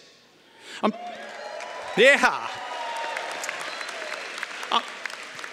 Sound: cheering & Applause

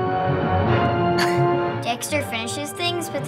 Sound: laughs

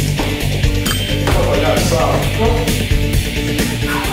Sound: score dings

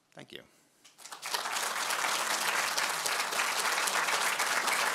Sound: applause

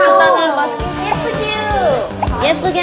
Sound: excited

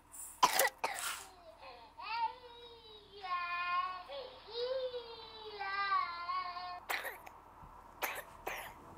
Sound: baby crying and coughing

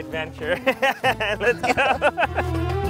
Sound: laughs; zestful Iranian music

